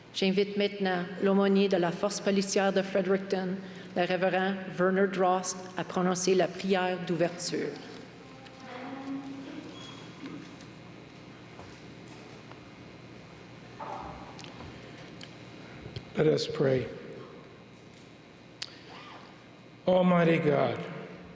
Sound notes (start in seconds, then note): 4.6 speaking french